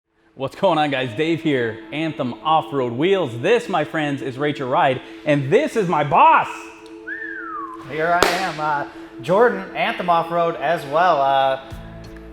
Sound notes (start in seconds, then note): 6.6 whistling